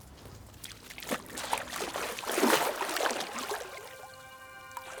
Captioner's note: water splashing